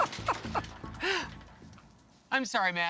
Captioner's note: laughs